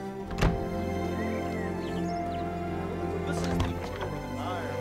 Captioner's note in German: Tür schließt